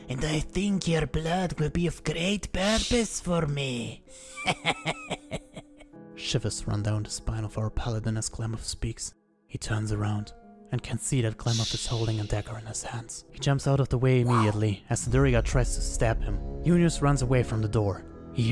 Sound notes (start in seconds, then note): 4.2 Glamoth laughs threateningly